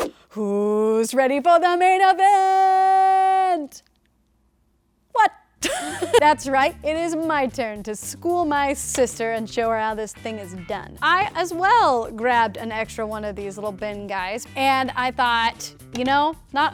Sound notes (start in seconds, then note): 5.6 laughing